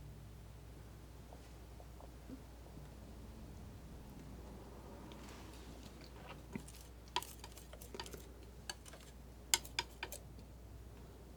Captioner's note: scratching